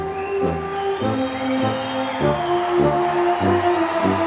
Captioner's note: applause